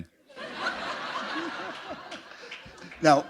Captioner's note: laughter